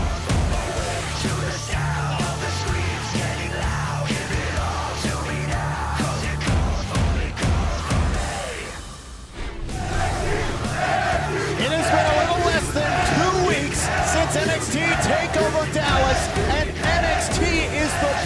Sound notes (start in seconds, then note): 11.1 fans chanting